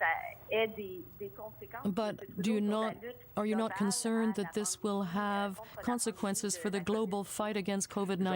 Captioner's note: speaking french